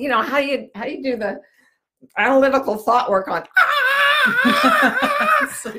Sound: shrieks; laughs

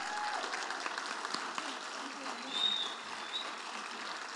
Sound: audience applauding

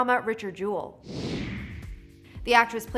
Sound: air whooshing

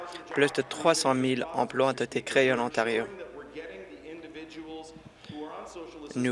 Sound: applause

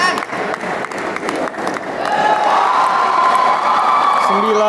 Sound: applause

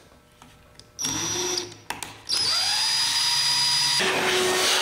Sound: drilling

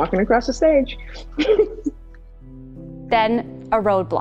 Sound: laughter

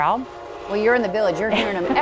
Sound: train horn blaring; train wheels clacking

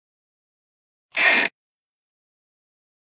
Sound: sound of floorboard

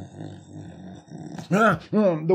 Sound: snoring

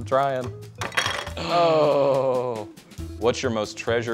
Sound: gasps

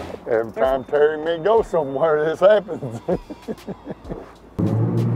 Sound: laughs; engines roar

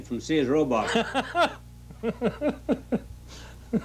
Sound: man laughing

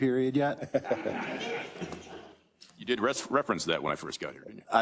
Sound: laugh

